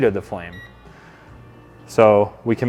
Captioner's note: remote beeps